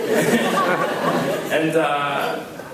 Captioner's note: laughs